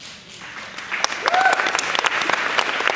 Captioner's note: clapping